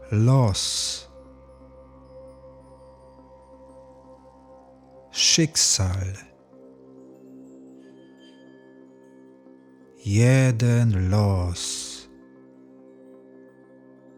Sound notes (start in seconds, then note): 6.3 german